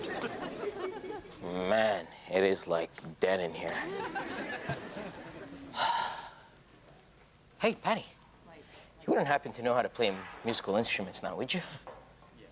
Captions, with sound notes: - Man, it is like dead in here. (sighs) Hey Patty, you wouldn't happen to know how to play musical instruments now, would you?